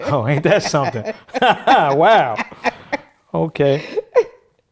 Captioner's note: both laughing